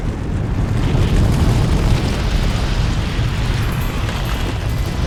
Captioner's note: breaking and rumbling sounds